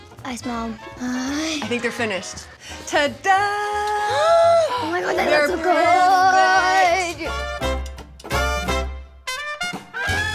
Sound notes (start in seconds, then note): 4.6 gasps; 7.2 bright music